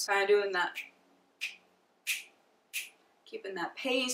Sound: fingers snap

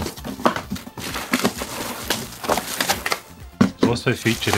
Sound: paper tearing

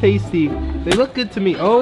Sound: splat

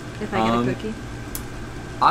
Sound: lip smack

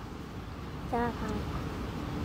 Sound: Arabic

